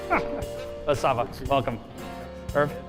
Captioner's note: laughing